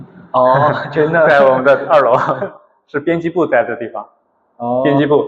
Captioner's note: laughs